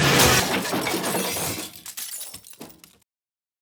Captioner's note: glass breaks